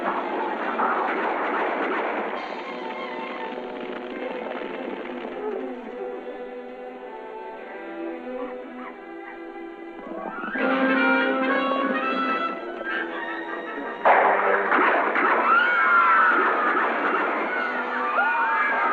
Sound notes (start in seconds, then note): 3.2 flames crackling; 11.2 dramatic music; 13.9 gunshots; 15.1 screaming